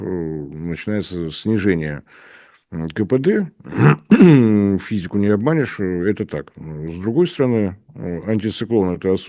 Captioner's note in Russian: откашливается